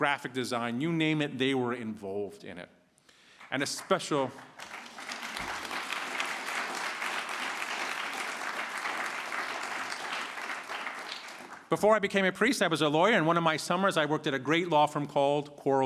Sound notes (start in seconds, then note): 7.8 applause